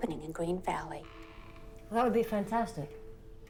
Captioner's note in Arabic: صرير الباب